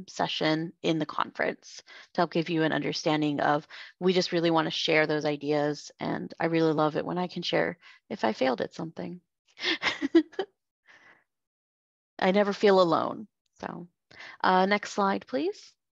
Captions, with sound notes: session in the conference to help give you an understanding of-- We just really want to share those ideas, and I really love it when I can share if I failed at something. (laughter) I never feel alone so... Next slide, please.